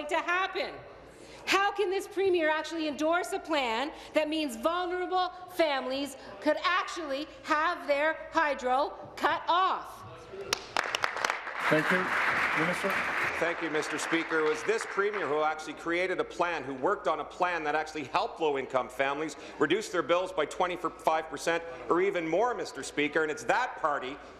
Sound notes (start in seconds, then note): 13.5 applause